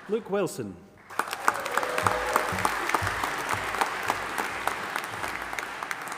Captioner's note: audience applauding and cheering